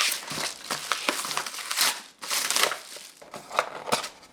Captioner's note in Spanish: papel crujiendo